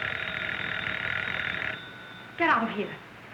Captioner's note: phone ringing